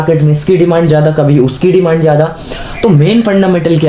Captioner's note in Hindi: नाक से की जाने वाली आवाज़